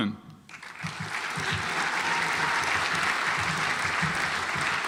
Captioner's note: audience applauds